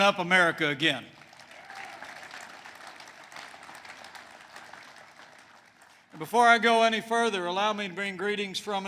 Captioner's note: applause